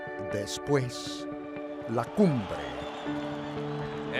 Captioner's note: crowd cheering fades in